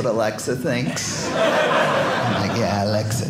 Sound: audience laughing

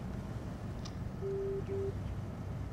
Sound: phone beeps

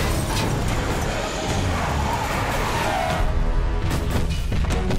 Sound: glass shattering; metal crunching; tires screeching; loud footsteps

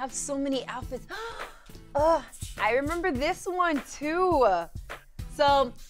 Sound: gasps

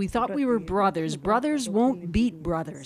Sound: speaking Foreign Language

